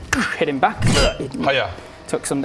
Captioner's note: clang